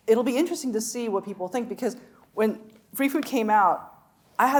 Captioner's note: none